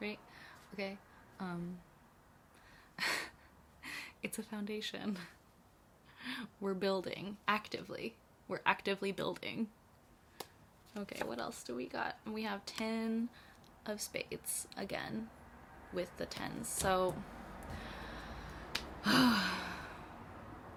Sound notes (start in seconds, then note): 3.1 laughs; 17.7 big sigh